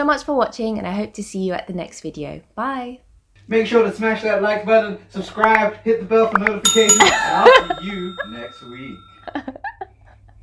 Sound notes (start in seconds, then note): 7.2 laughter